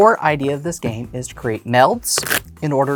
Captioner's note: cards riffling